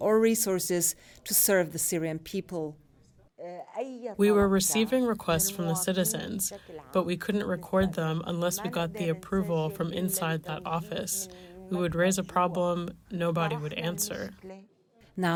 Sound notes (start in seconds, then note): 4.6 through translator